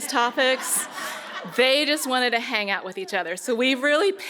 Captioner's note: laughter